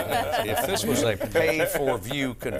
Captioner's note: laughter